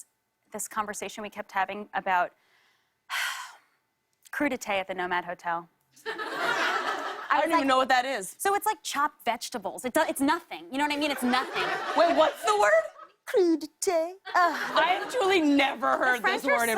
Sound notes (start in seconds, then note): 6.0 laughter; 11.0 laughter